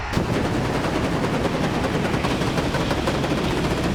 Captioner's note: pyro booming